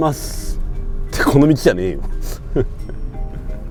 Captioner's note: laughs